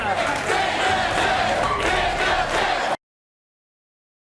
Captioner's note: audience chanting